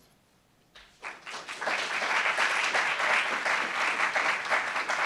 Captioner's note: applauds